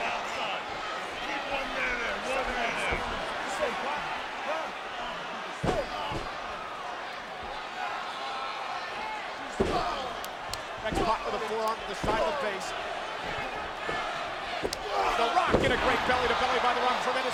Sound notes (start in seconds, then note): 9.6 rock groaning